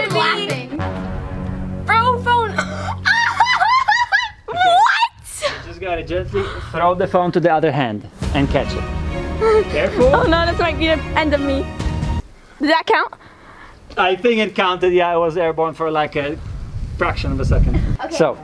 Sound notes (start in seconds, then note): 0.7 ominous music; 2.8 laughs loudly; 8.1 intense music